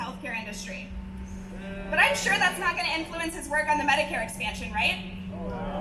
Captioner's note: AUDIENCE: Booing